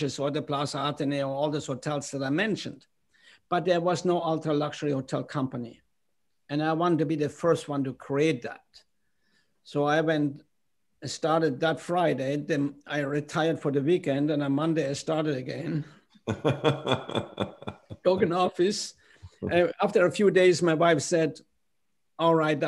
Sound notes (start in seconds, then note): 16.2 laughter